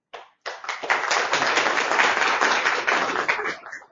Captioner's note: all applauding